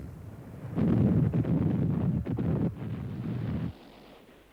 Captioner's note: shell booms